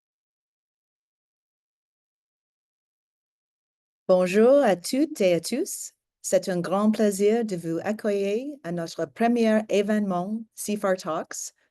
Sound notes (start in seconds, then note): 4.2 speaking French